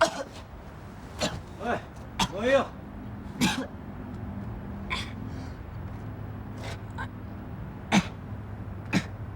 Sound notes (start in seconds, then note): 0.8 cough